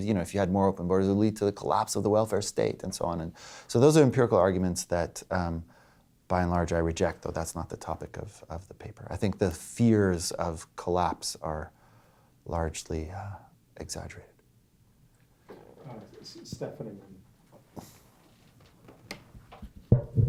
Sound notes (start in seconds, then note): 16.5 voiceover